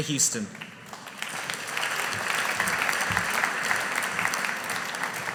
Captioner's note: audience applauding